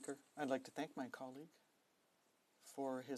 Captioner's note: speaking in French